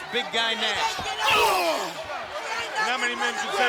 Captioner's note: crowd yelling; Booker grunting